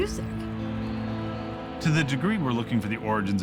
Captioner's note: people yelling